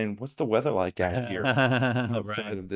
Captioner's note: laughing